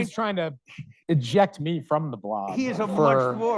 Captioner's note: audience chuckling